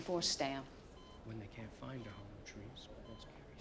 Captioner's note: reading quietly